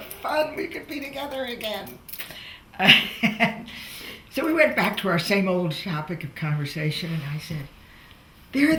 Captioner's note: laughs